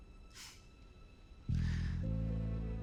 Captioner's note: laughs